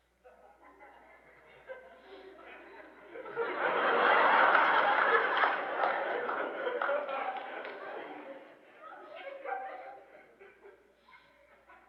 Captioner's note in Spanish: más risas fuertes, aplausos, risas